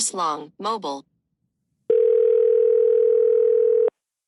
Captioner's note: phone rings